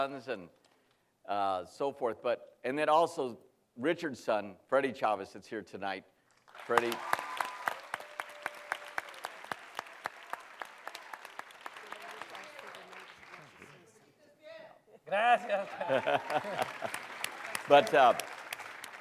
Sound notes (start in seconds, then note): 6.5 cheering and applause; 15.4 laughter; 15.5 applause